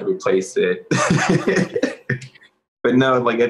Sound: laughing

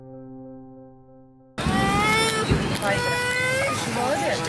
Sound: baby crying

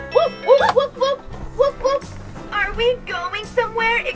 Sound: Marshall makes woof noises

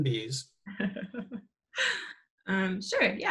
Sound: chuckles

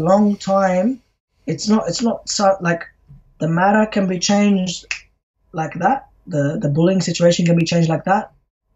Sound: snaps fingers

